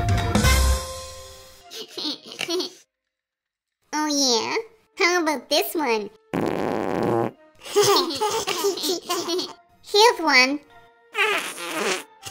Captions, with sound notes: Oh yeah? How about this one? [Fart sound] [giggling] Here's one! [fart sound]